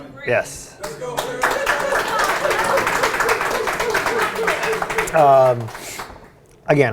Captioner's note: audience applauds